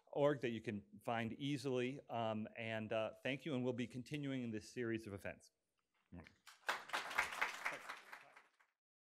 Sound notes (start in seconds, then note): 6.4 audience applauding